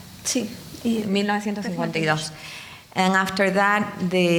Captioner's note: speaking in foreign language